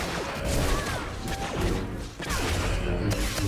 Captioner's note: gunfire